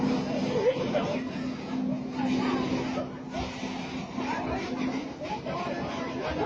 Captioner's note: onlookers speaking in foreign language